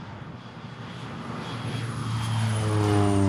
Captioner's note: aircraft passing